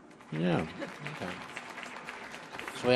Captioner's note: audience applauding